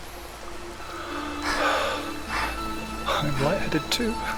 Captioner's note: gasps